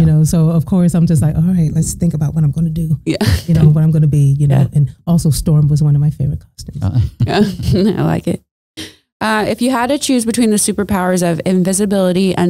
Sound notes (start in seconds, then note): 3.5 laughing; 6.9 laughing